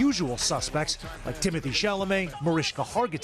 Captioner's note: crowd booing